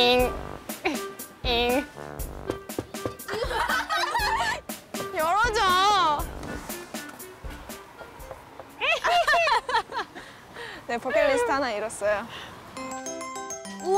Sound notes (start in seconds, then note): 7.6 knock Knock